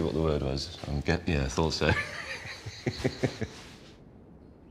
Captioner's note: laughs